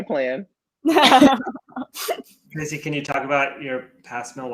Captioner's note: laughing